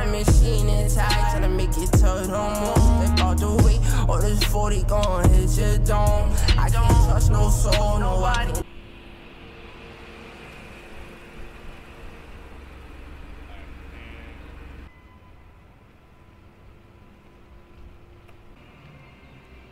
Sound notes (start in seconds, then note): 9.3 car engine revving